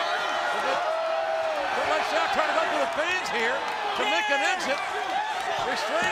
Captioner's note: applause